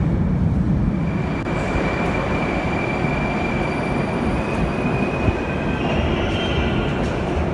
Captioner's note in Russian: прибытие поезда на станцию